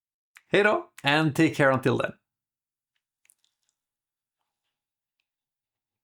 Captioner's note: in Swedish: Bye bye